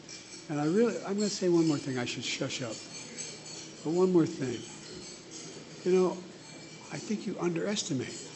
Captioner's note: none